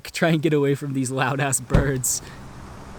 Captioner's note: car whirring; car trunk thuds